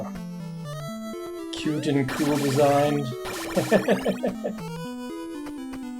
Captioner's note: chuckles